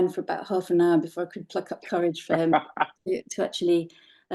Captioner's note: laughing